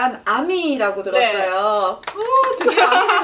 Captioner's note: clapping